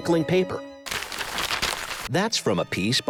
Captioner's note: crinkling paper